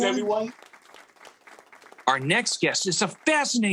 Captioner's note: audience clapping